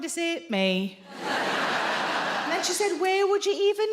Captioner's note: audience laughing